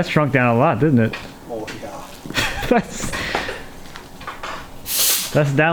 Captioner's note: laughing